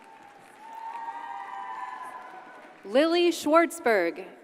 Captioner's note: audience cheers and applauds